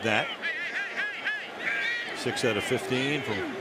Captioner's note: announcer on loudspeaker